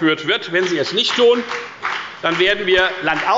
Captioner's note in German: Beifall bei der FDP